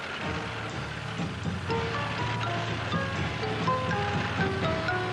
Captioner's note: tanks rumbling